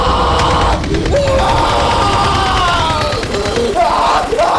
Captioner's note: screams